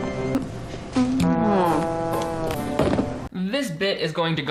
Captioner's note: Emily groans